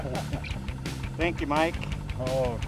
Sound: chuckling

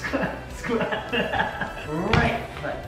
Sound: laughs

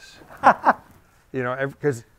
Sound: laughs

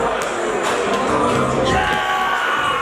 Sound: ball bouncing

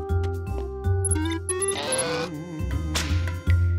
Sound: electronic beeping

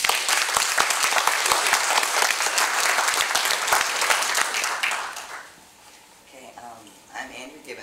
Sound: applause

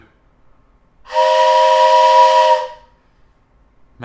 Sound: train horn noise

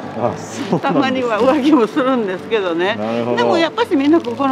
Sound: laughs

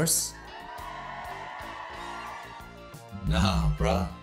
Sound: audience cheering

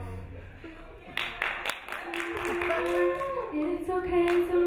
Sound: crowd clapping

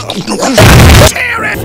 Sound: 𝘽𝙊𝙊𝙈

